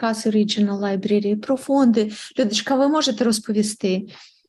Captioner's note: foreign Language Spoken